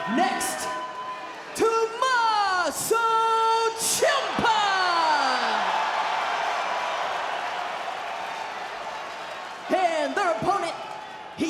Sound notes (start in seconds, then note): 4.0 audience cheering